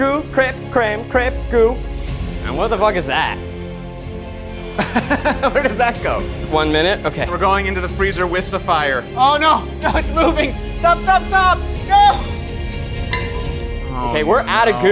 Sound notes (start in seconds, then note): 3.3 dramatic music; 4.8 laughs